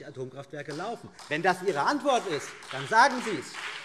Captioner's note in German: Beifall BÜNDNIS 90/DIE GRÜNEN und SPD